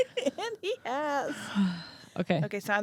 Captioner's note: laughs; sighs